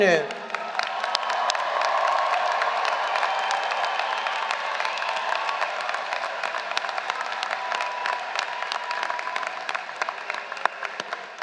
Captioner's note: applause